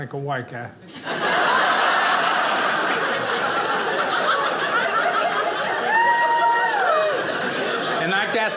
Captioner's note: audience laughing